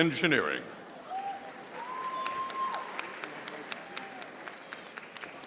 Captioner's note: audience applauding